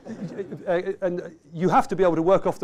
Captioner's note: laughter